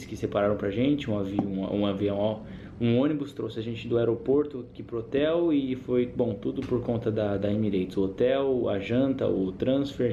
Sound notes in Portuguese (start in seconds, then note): none